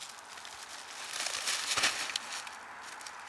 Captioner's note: rustling